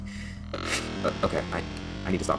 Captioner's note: chuckle